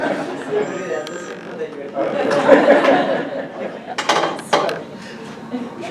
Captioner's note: audience laughs